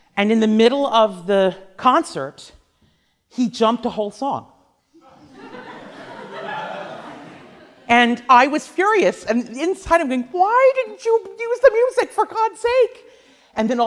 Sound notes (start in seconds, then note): 5.0 class laughs